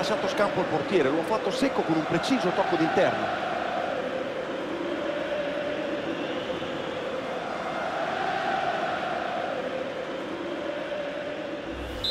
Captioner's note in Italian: Applauso